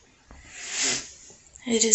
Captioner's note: sniff